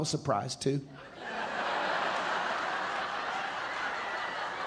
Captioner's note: audience laughing